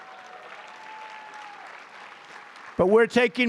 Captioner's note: applause